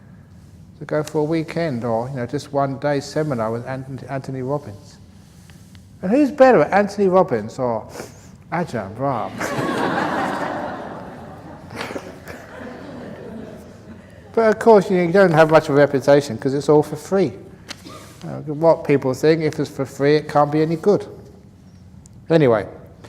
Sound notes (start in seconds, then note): 13.0 laughter